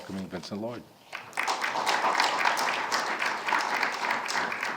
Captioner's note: all clapping